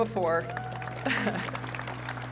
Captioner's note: applause; laughs